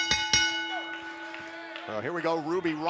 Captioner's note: bell ringing